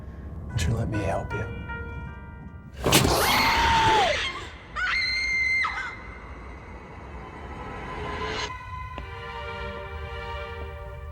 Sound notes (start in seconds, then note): 2.6 ominous music; 3.2 woman screaming; 7.1 soft music